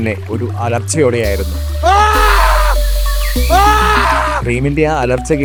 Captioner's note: screams